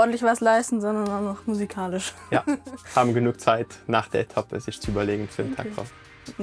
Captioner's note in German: gelächter